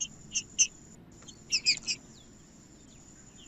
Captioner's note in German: trinca ferro cantando